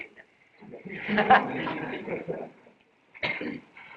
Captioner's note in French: Rires